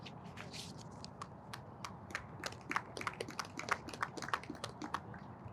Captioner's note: audience applauds